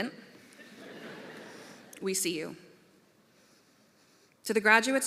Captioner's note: laughter